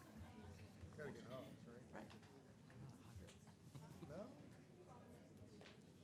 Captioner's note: council and commission members chatting